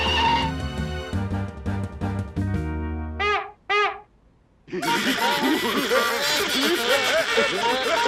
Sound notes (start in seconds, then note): 3.1 honks horn; 4.7 laughter and music